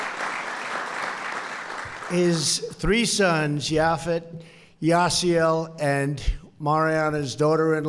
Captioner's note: applause